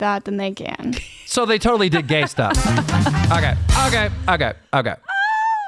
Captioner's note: laughs